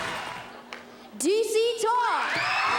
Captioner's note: audience screams and cheers